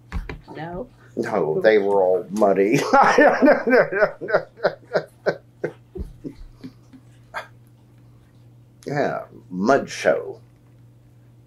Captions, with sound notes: No, they were all muddy. (Laughs) Yes, mud show.